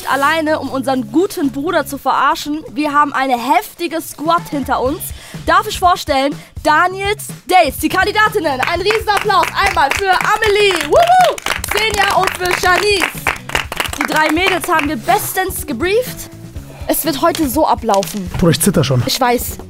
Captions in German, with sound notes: um unseren guten Bruder zu verarschen. Wir haben eine heftige Squad hinter uns. Darf ich vorstellen, Daniels Dates, die Kandidatinnen. Ein Riesenapplaus einmal für Amelie. (Jubel) Xeniya und für Janice. Die drei Mädels haben wir bestens gebrieft. Es wird heute so ablaufen. Boah, ich zitter schon. - Ich weiß.